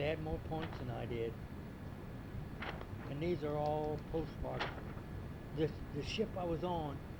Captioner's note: flipping pages